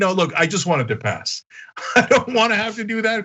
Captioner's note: laugh